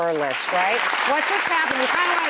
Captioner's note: audience clapping